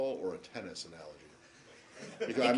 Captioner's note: laughter